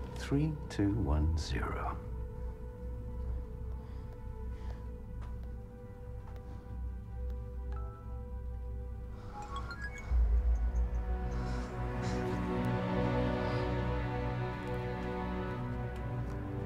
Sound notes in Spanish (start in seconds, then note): 7.6 Pitido; 9.1 Jadeando